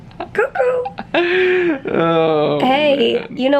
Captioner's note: chuckling